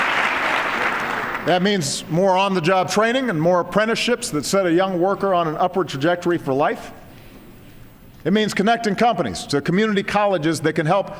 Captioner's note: applause